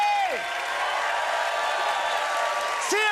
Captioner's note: cheers and applause